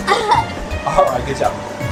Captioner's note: laughs